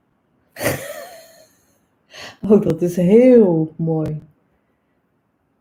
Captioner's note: laughs